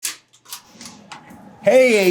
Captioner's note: door clicking